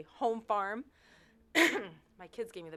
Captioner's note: cough